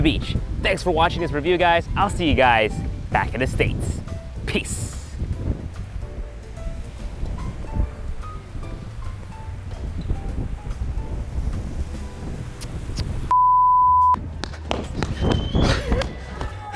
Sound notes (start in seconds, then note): 13.3 beeping; 14.4 gasping